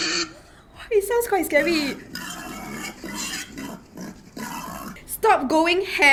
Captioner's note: hogs snorts